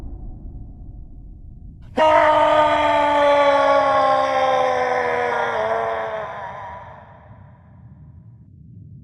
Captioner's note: roar